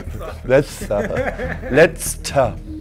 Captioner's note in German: lispelnd